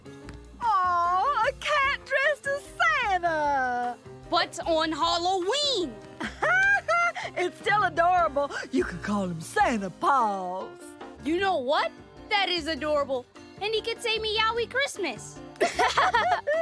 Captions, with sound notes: Aw, a cat dressed as Santa. But it's on Halloween. [chuckles] It's still adorable. You can call him Santa Paws. You know what? That is adorable. And you could say "Meowy Christmas". [laughing]